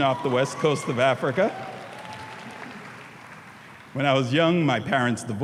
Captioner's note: audience cheering